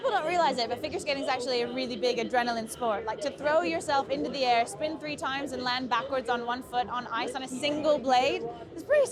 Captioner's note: none